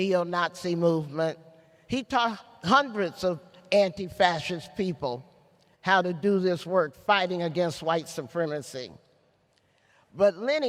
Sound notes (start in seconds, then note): none